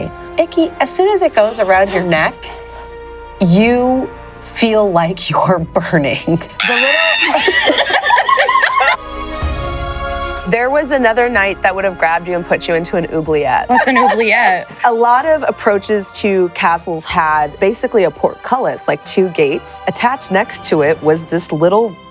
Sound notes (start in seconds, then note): 1.7 whispering; 6.6 screams; 7.1 laughter